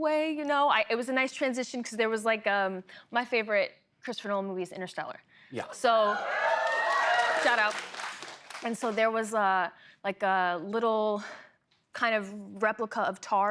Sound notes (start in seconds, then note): 6.0 cheering